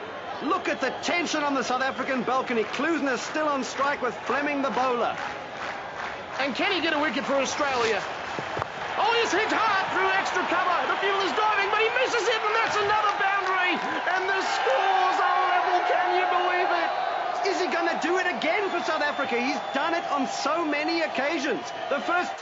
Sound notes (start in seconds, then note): 4.0 crowd clapping; 8.4 bat cracks against ball; 14.2 cheering